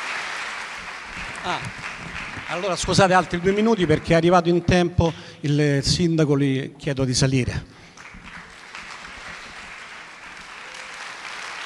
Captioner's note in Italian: Applauso